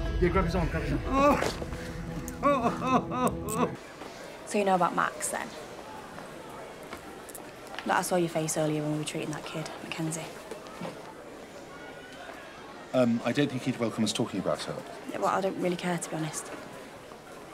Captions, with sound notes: Grab his arm, grab his arm. (Ray moans and whimpers) So you know about Max, then? Look, I saw your face earlier when we were treating that kid, MacKenzie. I don't think he'd welcome us talking about it. Well, I don't really care, to be honest.